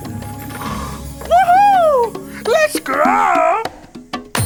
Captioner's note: growls